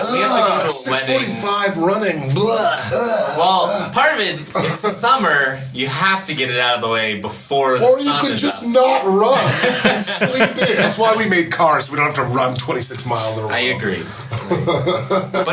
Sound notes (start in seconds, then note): 9.2 laugh; 14.1 laughs